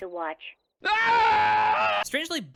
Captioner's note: Half-life 1 scientist scream